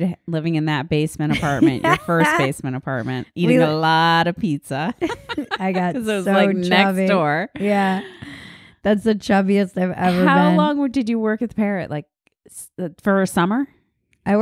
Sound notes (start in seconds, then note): 5.0 laughing